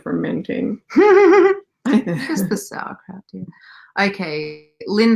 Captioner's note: laughing